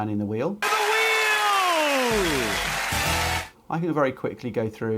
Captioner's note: audience applauds